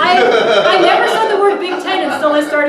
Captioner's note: laughter